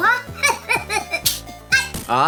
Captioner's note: slap sound